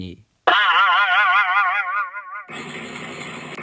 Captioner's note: boing; red ball car driving sound